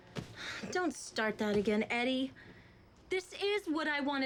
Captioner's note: sighs